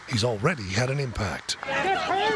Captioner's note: cheers and applause